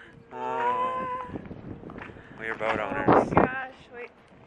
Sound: sighs

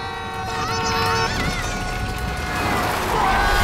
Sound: cars honking; yelling

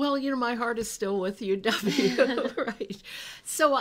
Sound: chuckles

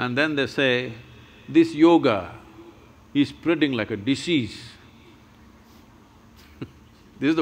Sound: laughs

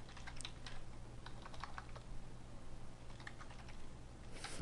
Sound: typing

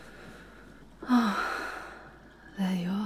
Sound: seeing you near the window, she leans back and sighs

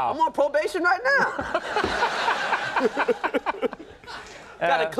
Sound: audience laughs

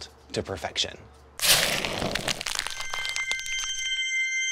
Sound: crackling

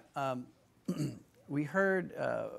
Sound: clears throat

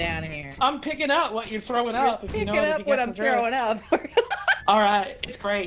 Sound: laughs

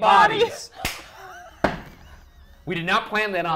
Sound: laughs

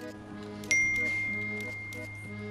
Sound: phone buzzes

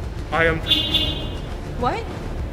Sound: beep beep

